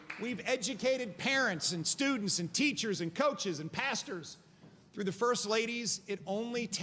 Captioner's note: applause